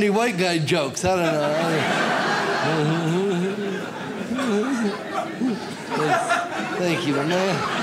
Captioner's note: audience laughs